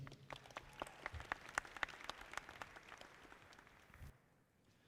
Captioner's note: audience clapping